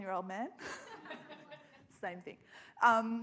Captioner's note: audience laughs